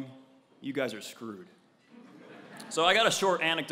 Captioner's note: laugh